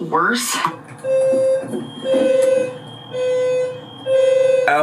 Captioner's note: alarm blaring